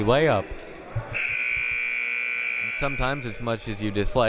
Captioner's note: buzzer